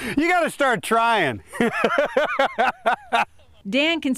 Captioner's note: laughter